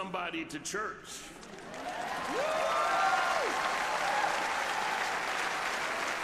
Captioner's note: applause